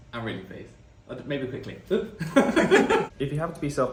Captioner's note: laughing